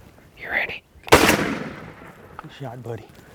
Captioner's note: gun shooting